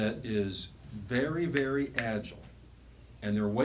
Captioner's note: snapping fingers